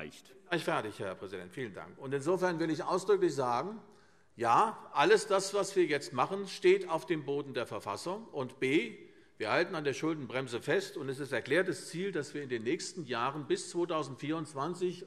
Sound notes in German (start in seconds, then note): none